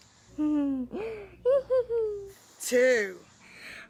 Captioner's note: laughs